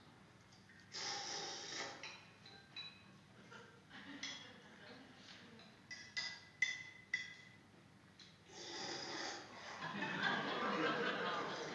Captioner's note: loud slurping--no dialogue